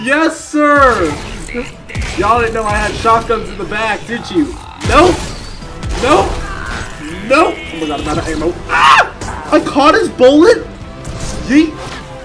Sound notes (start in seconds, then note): 8.6 screams